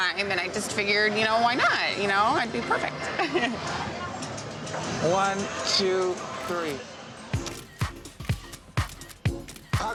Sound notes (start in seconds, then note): 4.4 laughs